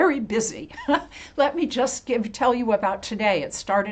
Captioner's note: chuckles